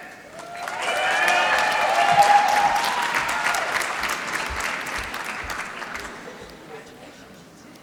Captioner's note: applause